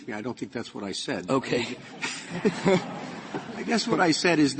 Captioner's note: laughter